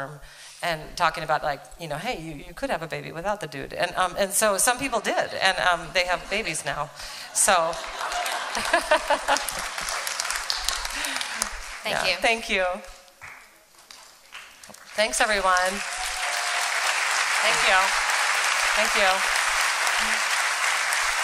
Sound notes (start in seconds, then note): 7.5 applause; 18.2 applause